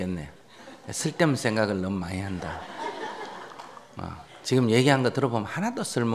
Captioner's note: audience laughter